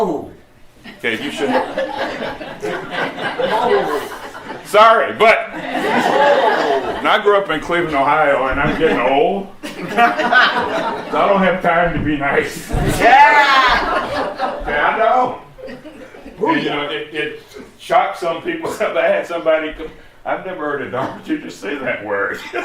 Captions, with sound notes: Oh, okay, you shouldn't (laughter) sorry, but (laughter) I grew up in Cleveland, Ohio and I'm getting old so I don't have time to be nice. (laughter) Yeah, I don't and you know it— it shocks some people, I had somebody "I've never heard a dharma teacher say that word",